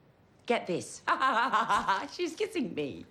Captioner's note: Lisa laughing